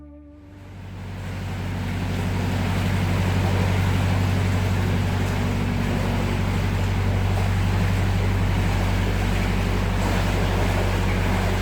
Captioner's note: engine noise